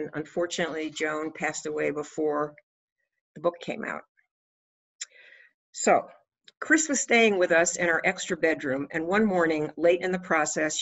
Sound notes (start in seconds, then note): none